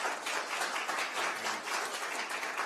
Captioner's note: applause